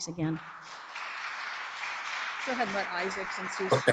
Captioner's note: audience applauds